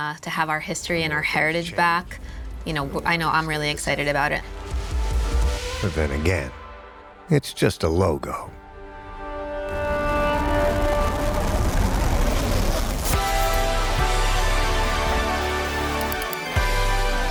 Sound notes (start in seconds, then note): 4.6 dramatic music; 9.4 dramatic music; 9.4 text whooshing